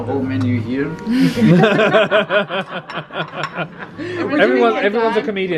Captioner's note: laugh